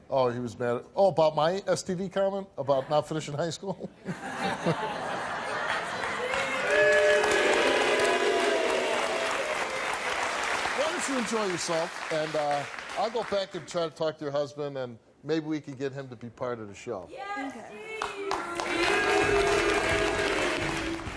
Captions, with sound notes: Oh, about my STD comment, about not finishing high school? (Steve and audience laugh) (applause) Why don't you enjoy yourself and I'll go back and try to talk to your husband and maybe we can get him to be part of the show. (audience cheering "Steve")